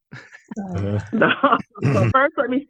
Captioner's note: laughs